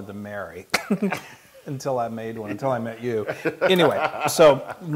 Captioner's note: laugh